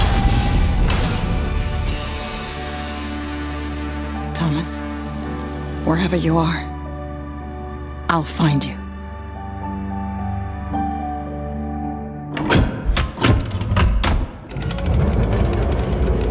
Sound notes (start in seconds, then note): 12.3 heavy locks click